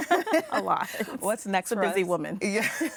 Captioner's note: laughs